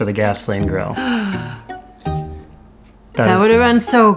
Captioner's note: gasp